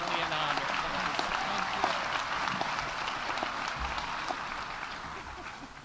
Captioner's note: audience applauding; muttering